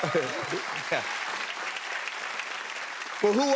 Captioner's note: applause